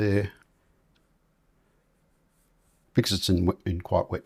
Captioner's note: silence